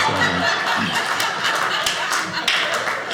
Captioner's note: audience laughing; audience applauding